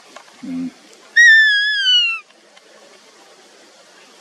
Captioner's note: Flexmark Whistle